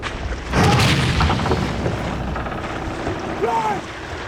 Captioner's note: thud